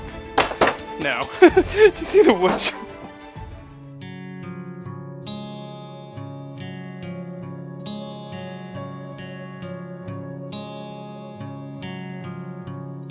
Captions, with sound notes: No. Did you see the wood chip? (Laughs)